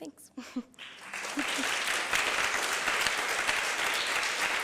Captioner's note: applause